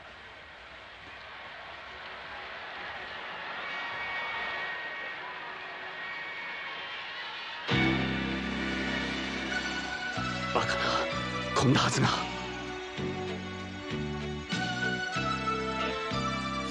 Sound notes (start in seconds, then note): 0.7 applause